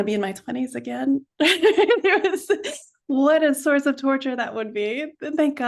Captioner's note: laughs